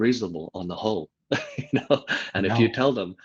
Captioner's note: laughs